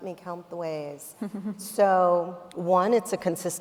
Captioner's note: chuckling